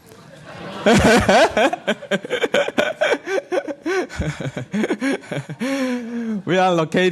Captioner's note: laughter